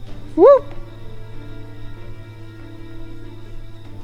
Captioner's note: mimics bird